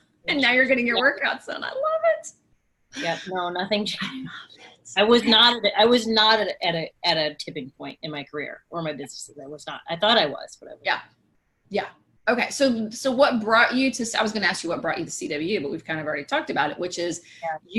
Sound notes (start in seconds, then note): 4.1 whispers